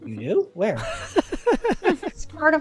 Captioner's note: laughter